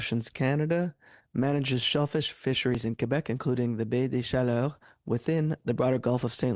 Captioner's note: speaking French